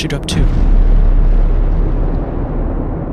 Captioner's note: atomic explosion